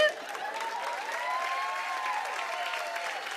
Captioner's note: cheers and applause